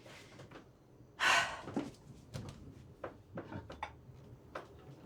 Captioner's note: Mary exhaling